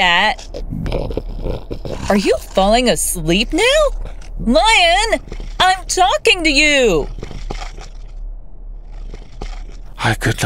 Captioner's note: lion purring sound